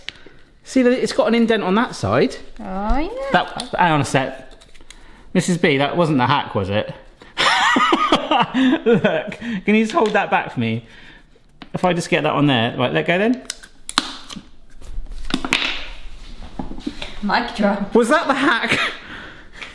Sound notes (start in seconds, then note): 8.4 laughs